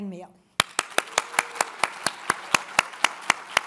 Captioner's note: all applaud